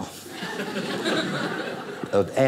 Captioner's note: audience laughing